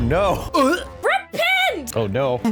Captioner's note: gags